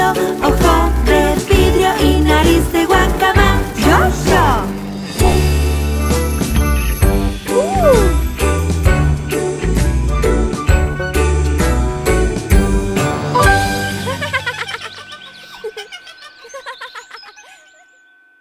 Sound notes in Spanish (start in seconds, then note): 5.1 Música Alegre; 13.9 Risas